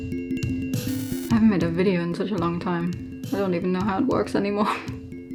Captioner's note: laughs